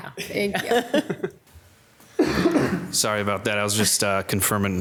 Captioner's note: panel laughing